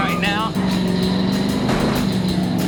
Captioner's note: tires squealing